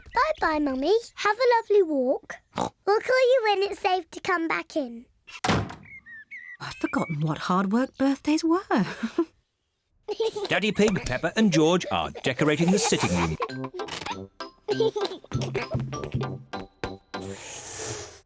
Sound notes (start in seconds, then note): 2.5 oinks; 8.9 chuckles; 14.7 giggling